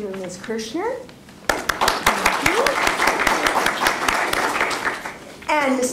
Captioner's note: applause